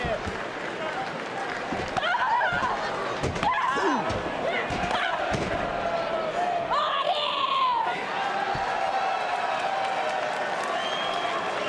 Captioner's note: crowd cheering